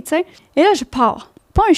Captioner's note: in french